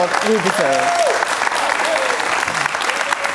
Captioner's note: cheers and applause